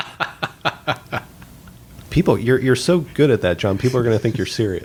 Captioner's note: laughter